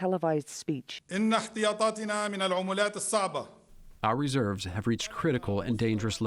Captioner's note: through translator